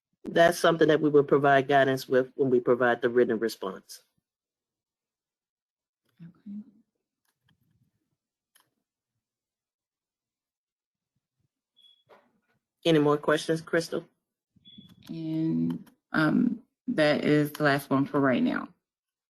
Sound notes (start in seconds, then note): 4.8 8 seconds pause